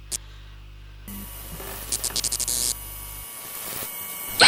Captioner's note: scared breathing; lights flickering, high pitched sounds; scream